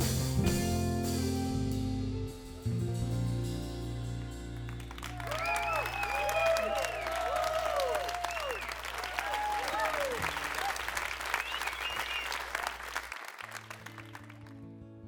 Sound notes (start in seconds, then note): 4.6 crowd applause; 12.0 soft guitar intro